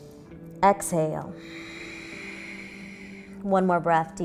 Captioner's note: inhaling; exhaling